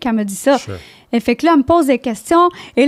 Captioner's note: in french